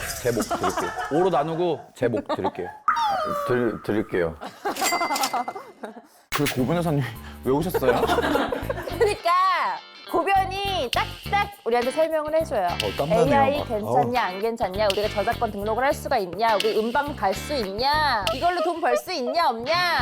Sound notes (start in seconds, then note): 3.0 sullen sound effect